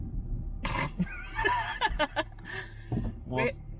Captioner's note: laughing